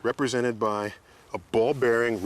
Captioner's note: none